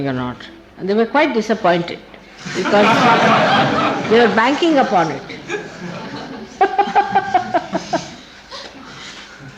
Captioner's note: laughing